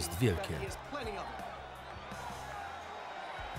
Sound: audience cheering

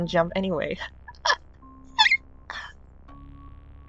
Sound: squeal laugh

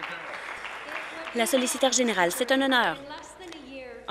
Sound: applause

